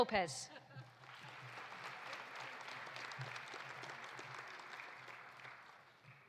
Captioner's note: audience laughing; audience applauding